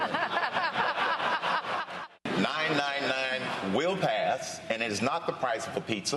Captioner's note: laughter